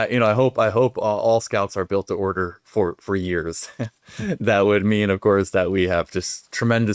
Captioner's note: chuckles